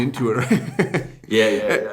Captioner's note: laughter